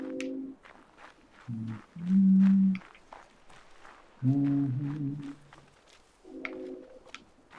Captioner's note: humming